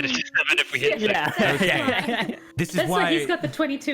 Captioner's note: general agreeing noises